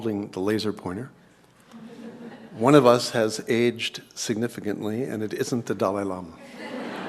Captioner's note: laugh